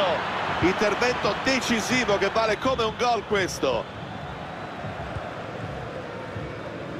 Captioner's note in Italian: Applauso